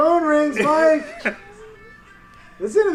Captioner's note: laughs